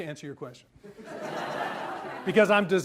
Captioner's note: audience laughs